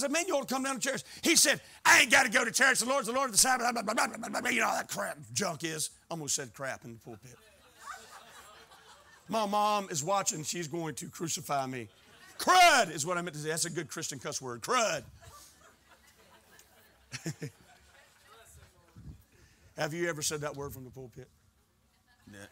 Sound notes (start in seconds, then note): 7.8 laughing; 15.2 laughing